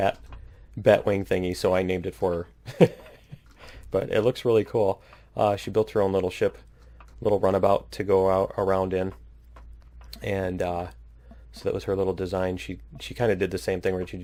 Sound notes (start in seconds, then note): 2.7 laughs